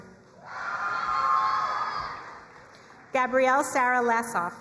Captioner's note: crowd cheering and applauding